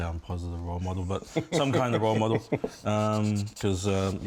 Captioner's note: laughs